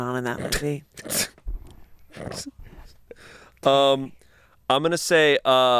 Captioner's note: laugh